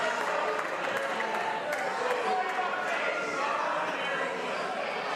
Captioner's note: some applause